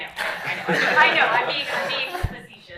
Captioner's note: laughter